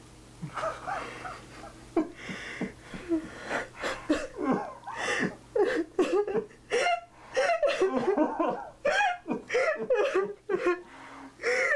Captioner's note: both crying